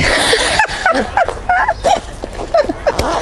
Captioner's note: laughter